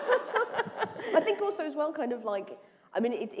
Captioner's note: laughter